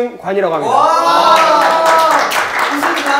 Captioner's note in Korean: 환영의 박수 짝짝짝짝